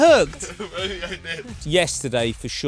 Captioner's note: laughs